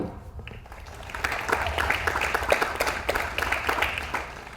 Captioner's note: audience applauds